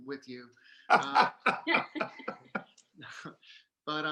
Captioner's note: laughing